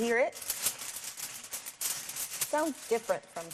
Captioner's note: aluminum foil rattling